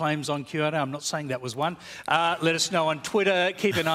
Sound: laughter

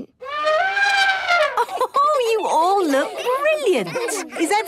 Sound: trumpeting; Mummy Pig laughing

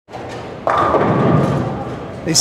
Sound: bowling pins clattering

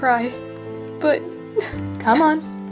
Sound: sobs

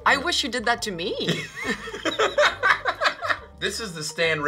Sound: both laugh

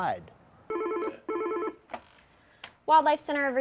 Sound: phone ringing

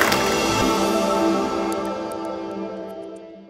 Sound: applause

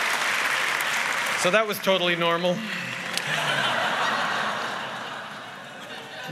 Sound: laughter & applause; laughter

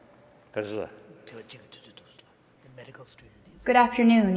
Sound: speaking foreign language

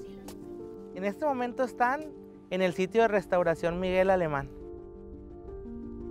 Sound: speaking Spanish

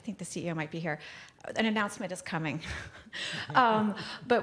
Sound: laughs

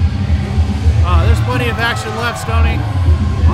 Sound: crowd cheering

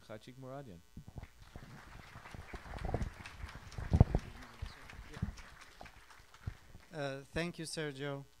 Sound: applause

